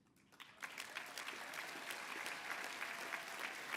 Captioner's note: applause